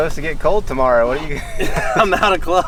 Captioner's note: laughing